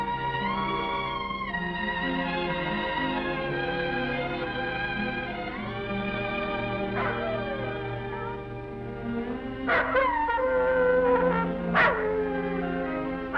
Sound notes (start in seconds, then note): 6.8 wolf howling; 6.8 gentle music